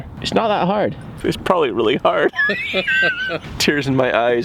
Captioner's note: laughing